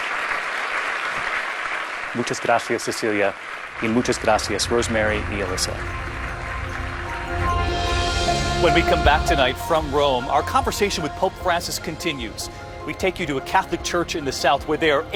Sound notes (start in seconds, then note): 0.7 speaking foreign language